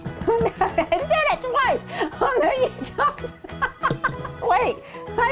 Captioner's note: laughing